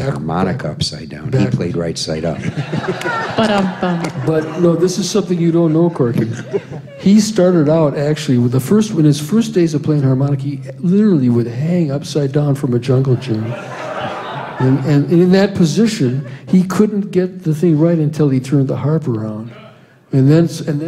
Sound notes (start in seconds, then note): 2.3 laughter; 13.1 laughter